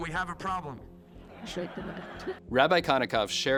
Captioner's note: audience laughing